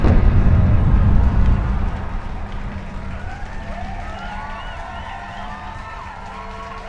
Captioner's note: cheering and applause